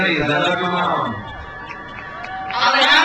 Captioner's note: crowd cheers